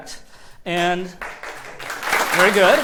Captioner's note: applause